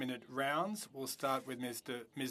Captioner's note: speaking French